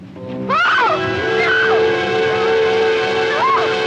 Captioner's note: screams